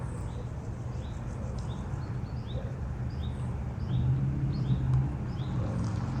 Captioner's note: birds chirping